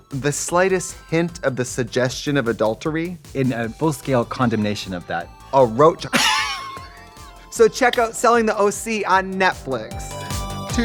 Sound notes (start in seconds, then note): 6.1 Katya laughs